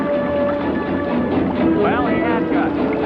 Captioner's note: bold music; water bubbling